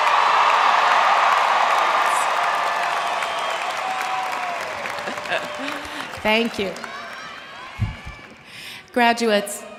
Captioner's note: cheers and applause